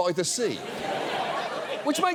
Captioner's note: audience laughs